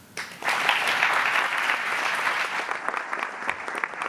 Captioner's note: applauding